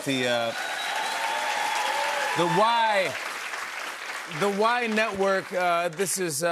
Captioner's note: cheers and applause